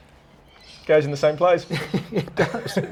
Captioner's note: laughter